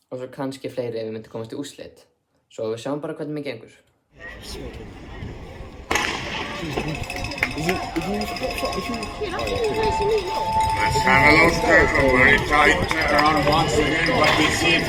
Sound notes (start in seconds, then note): 5.9 starting gun goes off; 8.5 cheering